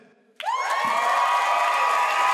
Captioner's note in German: Jubel, Applaus